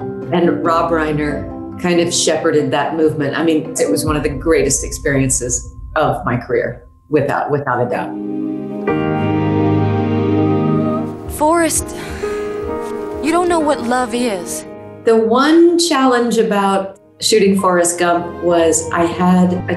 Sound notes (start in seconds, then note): 8.1 pensive music; 11.8 sighs